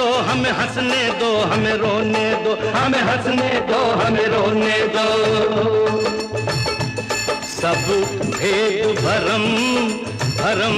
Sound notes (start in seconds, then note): none